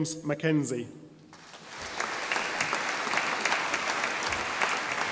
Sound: audience applauding

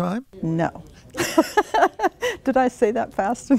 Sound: laughter

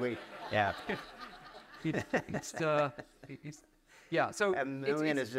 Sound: audience laughs

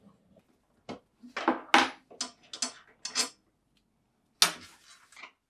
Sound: parts clattering

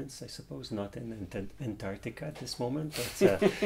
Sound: laughs

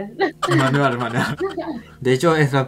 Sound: Spanish

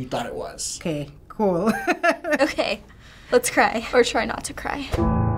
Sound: laughs; somber piano music

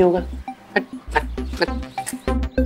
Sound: scoffing

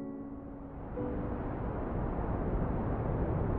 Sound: wind blowing

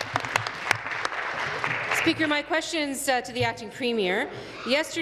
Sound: applause

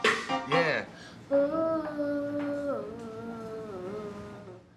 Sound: girl humming

